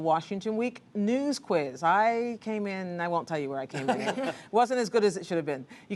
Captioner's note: laughter